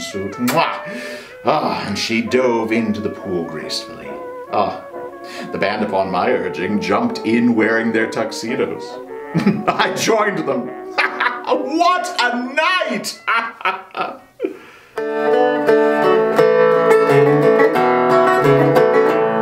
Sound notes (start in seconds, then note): 9.1 laugh